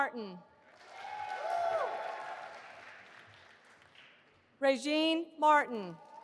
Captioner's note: audience applauding